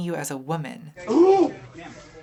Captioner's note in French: grogne